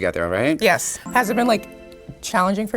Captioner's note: chimes chiming